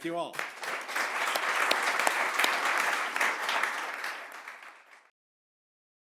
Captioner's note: audience applauding